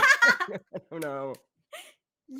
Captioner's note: both laughing